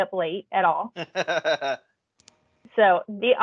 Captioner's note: male laughing